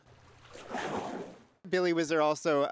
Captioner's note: water splashes